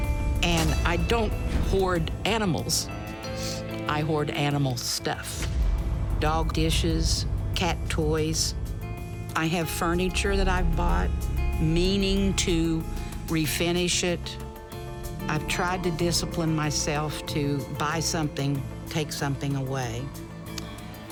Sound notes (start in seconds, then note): 2.7 sniffles